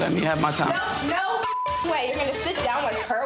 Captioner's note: beep